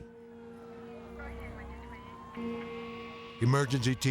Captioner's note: siren blares